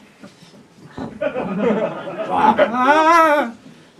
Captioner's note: audience laughs